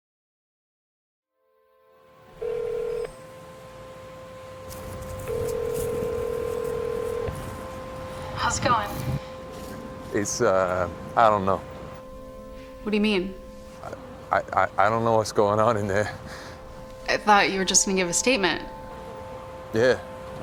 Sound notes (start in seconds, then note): 0.2 anxious music; 2.2 phone ringing